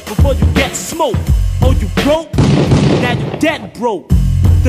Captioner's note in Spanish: disparos